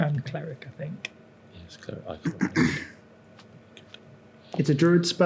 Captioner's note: mutters